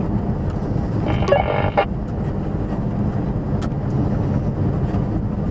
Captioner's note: CB key up noise, road noise, engine noise